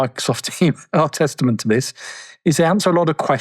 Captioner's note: laughs